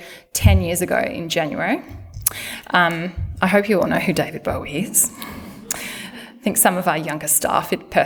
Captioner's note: laughter